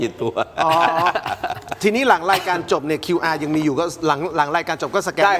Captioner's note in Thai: เสียงหัวเราะ